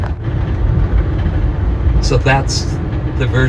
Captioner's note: train rumbling